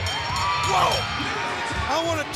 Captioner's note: bell ringing